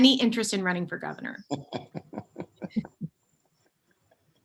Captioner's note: chuckling